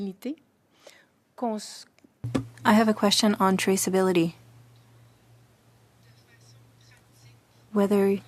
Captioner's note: speaking French